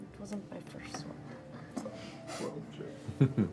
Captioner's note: whispers